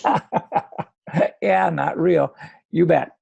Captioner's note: laughs